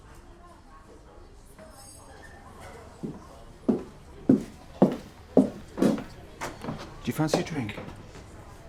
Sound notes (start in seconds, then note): 0.1 people chattering; 2.7 footsteps tapping